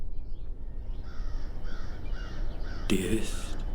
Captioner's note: crow cawing